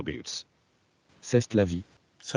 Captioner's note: French voice